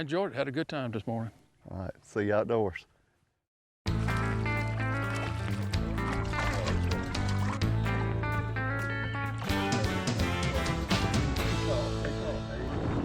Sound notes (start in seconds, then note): 0.7 upbeat twangy music; 0.7 water splashing; 9.5 wind whistling